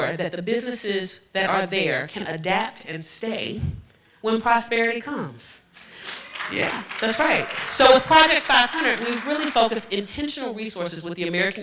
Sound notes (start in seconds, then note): 5.8 applause